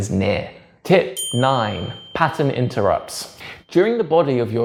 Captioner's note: bell dings